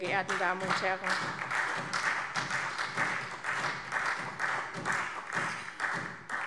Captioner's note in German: Beifall SPD